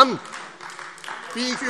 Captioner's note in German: Beifall AfD